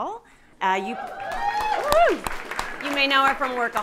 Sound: audience cheering

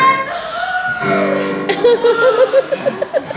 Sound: deep breath

